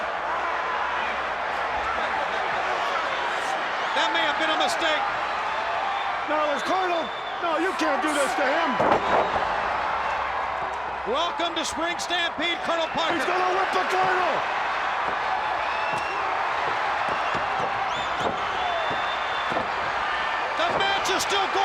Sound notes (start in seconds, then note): 3.3 crowd chatter; 9.2 crowd cheering; 15.5 crowd cheering